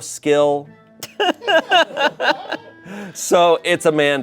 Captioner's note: group laughing